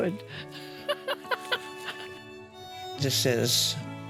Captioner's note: laughs